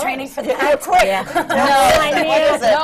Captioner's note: laughs